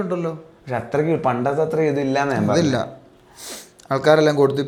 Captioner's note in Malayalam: ചീറ്റുന്നു